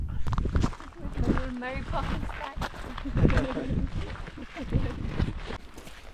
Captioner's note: laughs